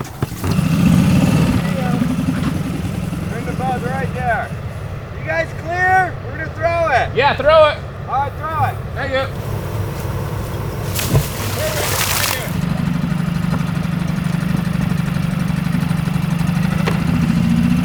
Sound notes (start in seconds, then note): 0.4 boat whirring; 11.2 water splashes; 12.8 boat whirring